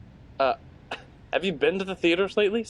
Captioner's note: scoffs